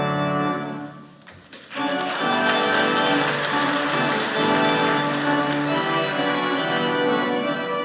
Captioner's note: applause